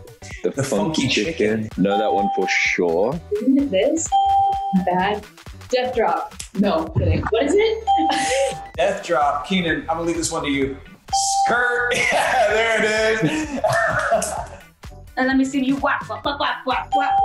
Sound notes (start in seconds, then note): 4.2 ding; 8.0 ding; 11.0 ding; 11.7 laughs; 17.0 ding